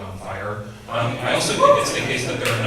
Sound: audience cheers

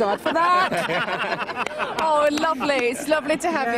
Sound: all laughing

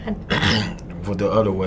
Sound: clears throat

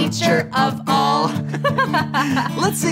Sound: girl giggles

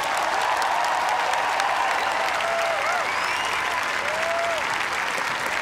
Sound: cheers and applause

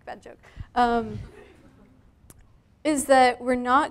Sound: laughter from the audience

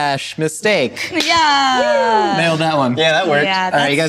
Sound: wooing

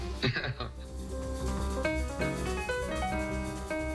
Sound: laughs

